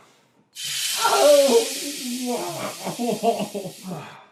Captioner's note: iron Hisses; muffled Screaming